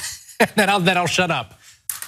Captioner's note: laugh